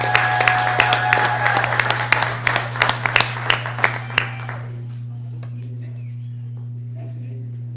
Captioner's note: applause